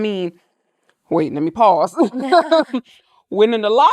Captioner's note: laughs